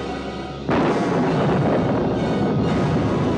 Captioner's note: thunder continues rumbling